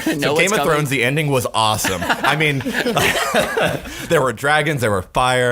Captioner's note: laughing